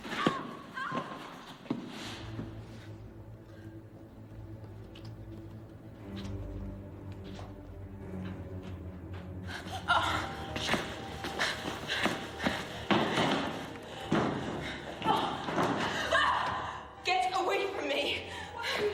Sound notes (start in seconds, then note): 0.1 Louise screaming; 0.2 series of thuds; 5.5 tense music playing; 9.6 Louise whimpering; 15.0 banging on the door; 16.0 Louise screams